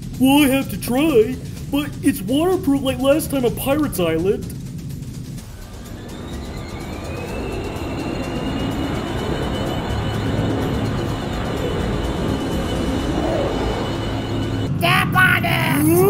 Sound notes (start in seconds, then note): 5.8 Airteartia start engine; 10.1 rumbling